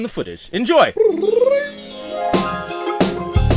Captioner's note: imitates harp flourish